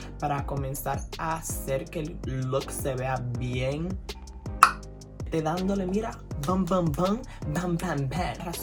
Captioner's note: tongue pop